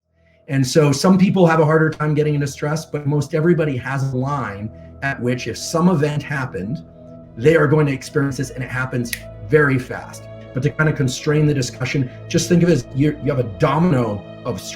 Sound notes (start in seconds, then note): 9.1 finger snaps